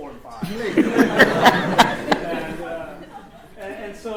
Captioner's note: laughter